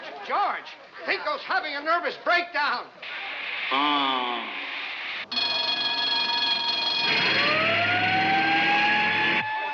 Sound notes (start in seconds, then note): 3.7 moans; 6.4 siren wailing